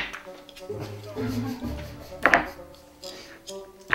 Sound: laughing

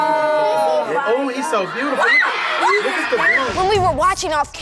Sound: screaming

